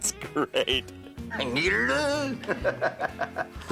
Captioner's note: laughing